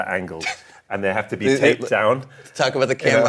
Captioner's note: laughs